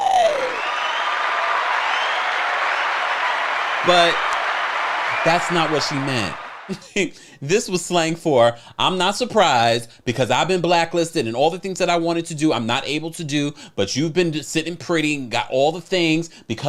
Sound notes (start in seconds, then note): 0.0 people cheering